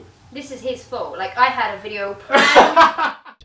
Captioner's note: laughs